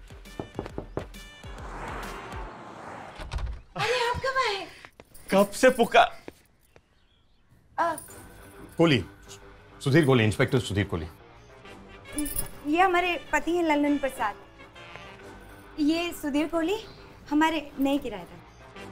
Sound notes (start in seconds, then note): 0.1 knocks on door; 3.2 door opens